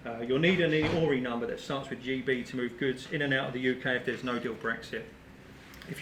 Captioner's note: none